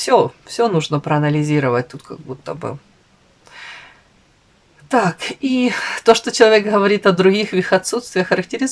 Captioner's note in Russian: вздыхает